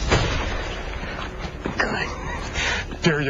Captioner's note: gunshot